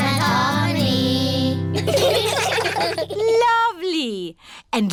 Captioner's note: children giggling